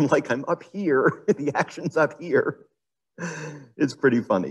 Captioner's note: laughs